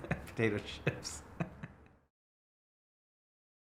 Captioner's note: laughing